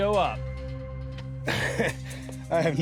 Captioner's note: laughs